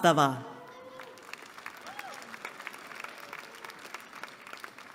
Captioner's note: applause